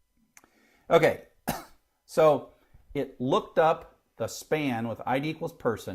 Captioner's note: cough